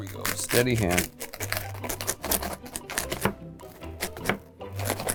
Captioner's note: wafers crunching